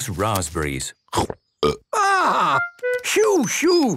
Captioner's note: burps